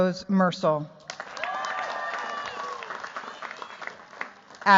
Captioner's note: cheers, applause